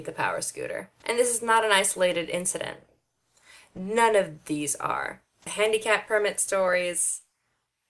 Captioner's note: deep breath